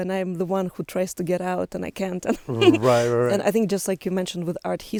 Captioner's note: laughs